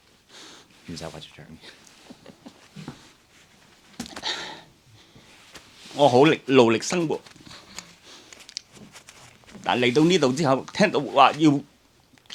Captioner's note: Cantonese